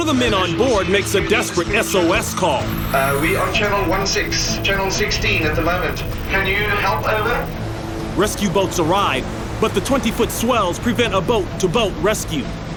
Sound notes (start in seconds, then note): 2.8 British accent